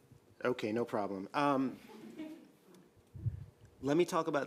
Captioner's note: audience laughs